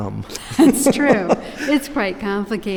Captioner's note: laughs